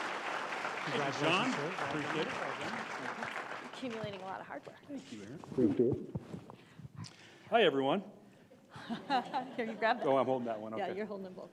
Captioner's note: applause